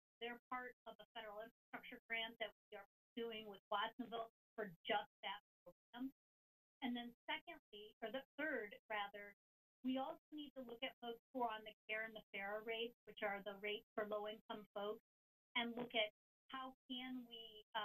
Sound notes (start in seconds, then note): none